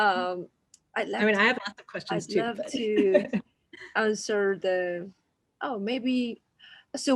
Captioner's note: laughs